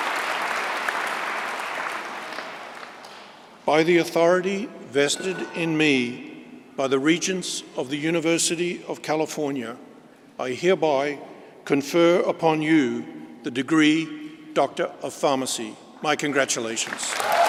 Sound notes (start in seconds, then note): 2.6 applause; 16.8 applause